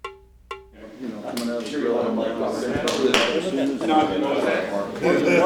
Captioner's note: drum music; group chattering